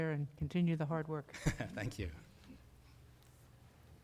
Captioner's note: laughing